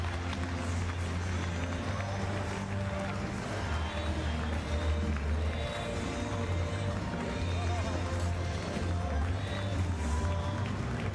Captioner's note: applause